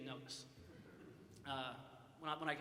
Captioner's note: audience chuckles